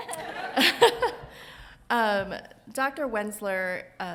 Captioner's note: chuckles